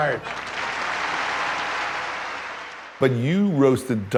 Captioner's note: audience applauds